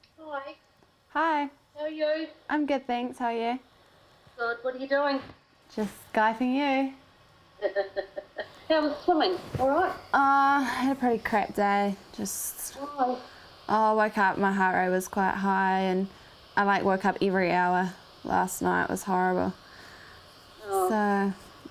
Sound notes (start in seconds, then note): 7.6 laughs